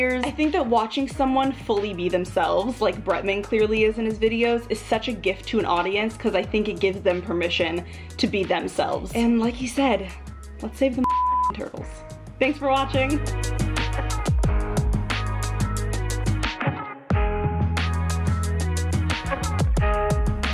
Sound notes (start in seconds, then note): 11.0 beep; 13.3 upbeat music